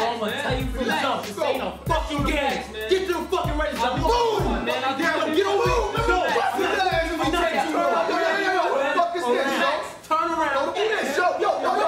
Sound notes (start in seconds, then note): 4.6 men yelling at one another